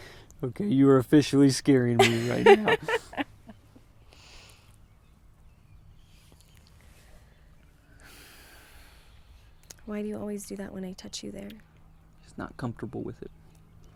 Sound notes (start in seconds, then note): 2.0 laughs; 7.9 Bryan sighs